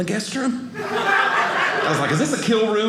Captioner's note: audience laughing